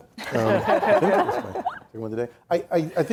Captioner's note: laughing